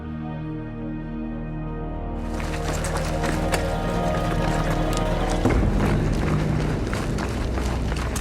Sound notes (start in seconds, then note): 2.2 feet crunching